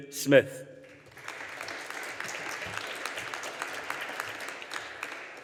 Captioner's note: audience applauding